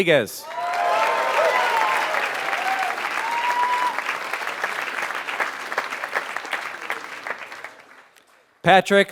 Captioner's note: applause